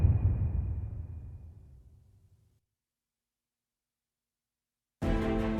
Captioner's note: dramatic sound